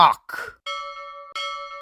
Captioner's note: ding; ding DING; ding DING DING